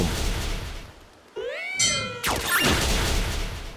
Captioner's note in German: Klagender Laut, Klingeln